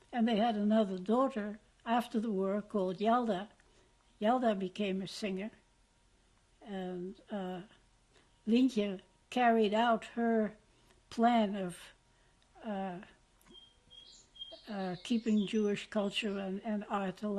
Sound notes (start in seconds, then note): 11.7 pauses for 3 seconds